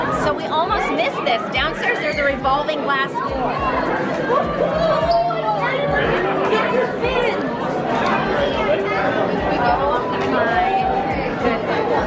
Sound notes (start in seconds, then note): 3.9 crowd talking; 7.9 talking